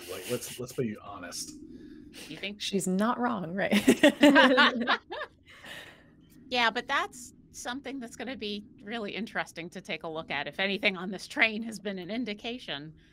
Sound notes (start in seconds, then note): 3.7 all laughing